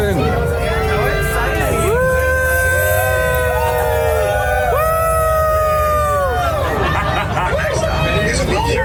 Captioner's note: cheering